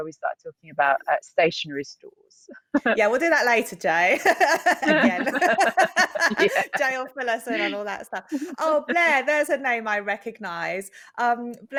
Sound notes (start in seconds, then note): 4.0 chuckles